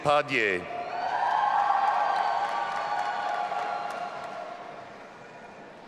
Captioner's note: audience applauding and cheering